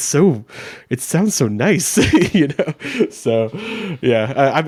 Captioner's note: chuckles